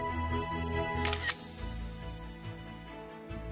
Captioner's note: camera shutter sound